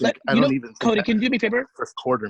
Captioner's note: stuttering